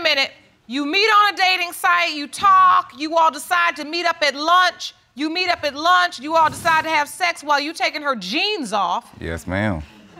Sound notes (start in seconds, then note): none